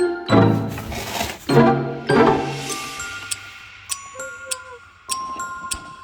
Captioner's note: happy groan noise